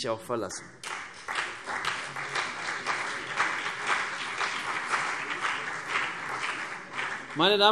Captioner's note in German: Beifall CDU und BÜNDNIS 90/DIE GRÜNEN